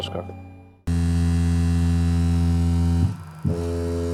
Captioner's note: buzzing sound